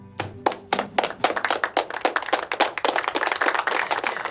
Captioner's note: applause playing